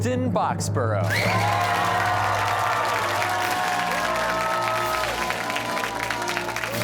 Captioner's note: cheers and applause